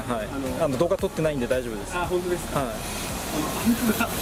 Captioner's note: laughs